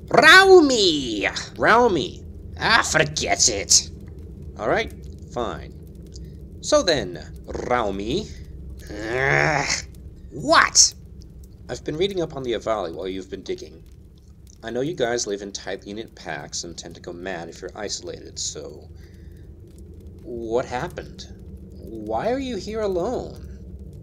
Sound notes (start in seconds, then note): 0.4 rolling "R"; 6.5 rolling "R"